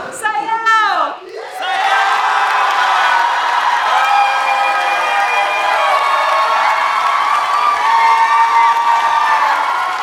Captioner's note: applause